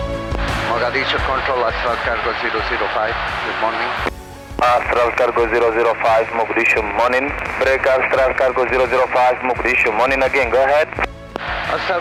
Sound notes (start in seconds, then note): 4.6 air Traffic Controller On Speaker